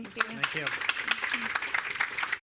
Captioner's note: applause